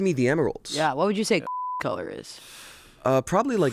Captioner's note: beep